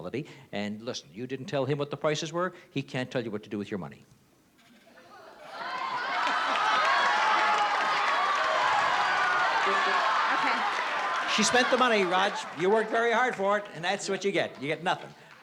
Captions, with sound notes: And listen, you didn't tell him what the prices were, he can't tell you what to do with your money. [CROWD SHOUTING] - OK. - She spent the money, Rog. You worked very hard for it, and that's what you get. You get nothing.